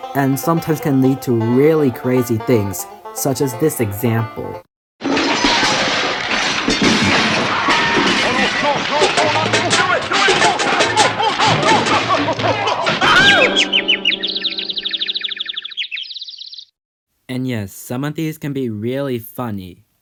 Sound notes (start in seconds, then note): 5.0 various crash sound effects; 13.0 birds tweeting